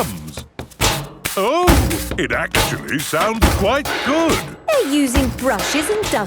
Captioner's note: rhythmic clanging